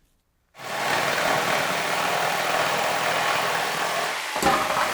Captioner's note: machinery buzzes